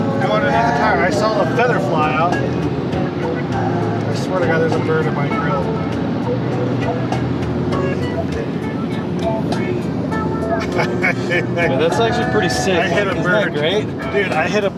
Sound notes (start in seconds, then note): 10.3 driver laughs